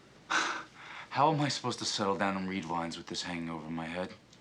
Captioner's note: sighs